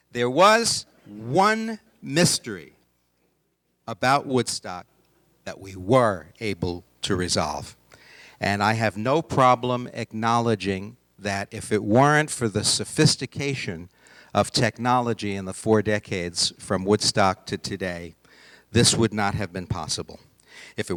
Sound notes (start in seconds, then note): none